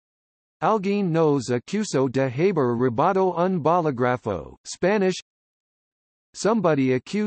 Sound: Spanish

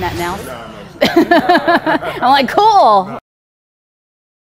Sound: laughter

